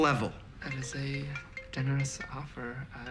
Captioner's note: cell phone ringing